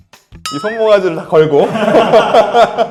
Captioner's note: hehehe